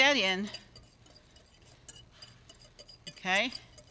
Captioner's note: fork scratching